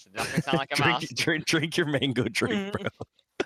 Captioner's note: laughs